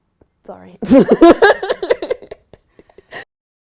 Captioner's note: laughs